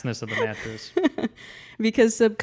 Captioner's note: laughs